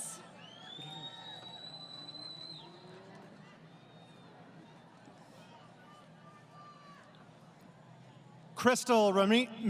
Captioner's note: crowd Cheering